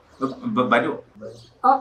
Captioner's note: stuttered voice